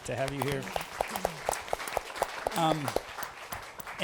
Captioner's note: applause